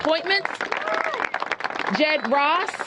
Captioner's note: applause